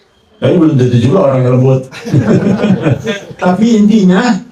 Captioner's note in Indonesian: tertawa